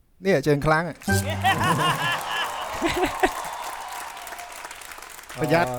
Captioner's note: laughing, cheering